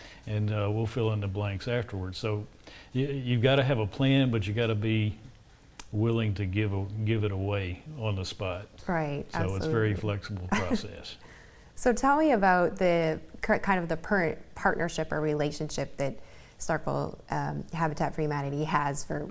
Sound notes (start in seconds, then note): 12.0 chuckles